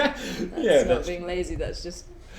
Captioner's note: both laugh